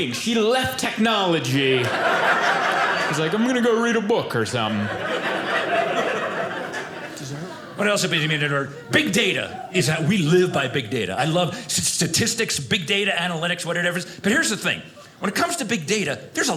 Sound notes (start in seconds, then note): 6.0 audience laughing